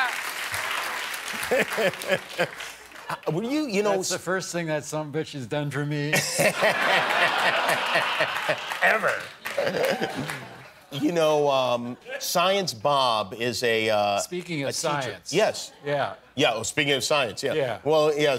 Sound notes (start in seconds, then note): 6.1 laughter; 7.4 applause